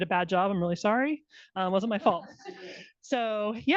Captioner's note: attendees laughing